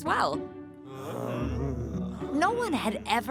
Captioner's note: grumbling